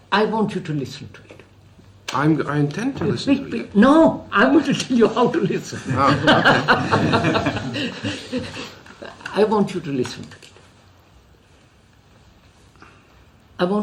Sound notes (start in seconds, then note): 5.8 laughs